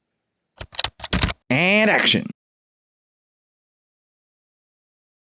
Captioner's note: typing